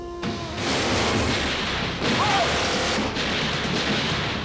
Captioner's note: speaks foreign language; gunshots fire